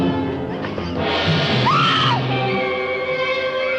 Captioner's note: scream